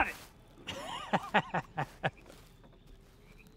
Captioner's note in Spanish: risas